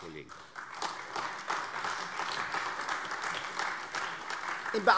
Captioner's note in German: Beifall AfD